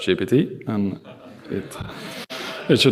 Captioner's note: laughter